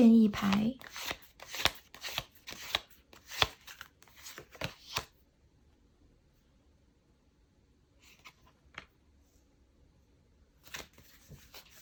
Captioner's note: drawing cards